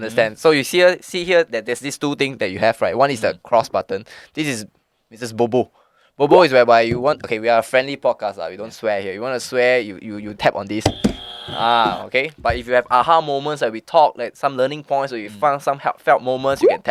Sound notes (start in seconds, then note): 10.8 buzz